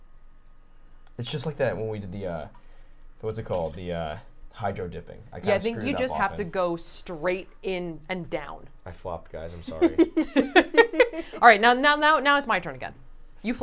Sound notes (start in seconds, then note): 9.7 laughing